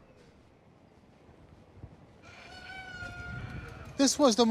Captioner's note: rooster crows